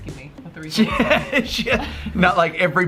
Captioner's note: laughing